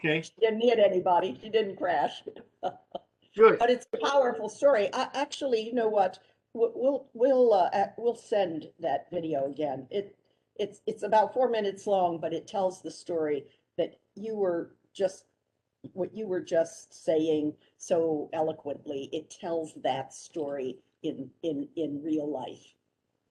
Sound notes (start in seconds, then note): 2.0 laughter